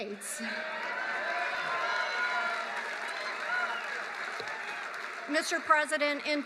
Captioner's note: applause